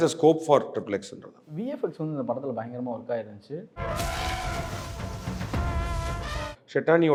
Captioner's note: movie scene playing